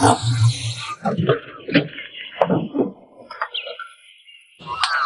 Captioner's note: birds chirping